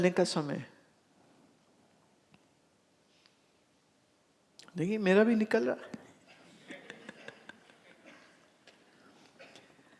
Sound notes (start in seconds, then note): 6.1 laughs